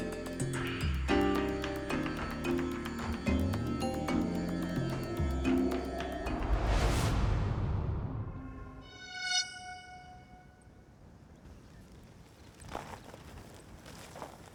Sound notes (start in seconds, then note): 8.4 screeching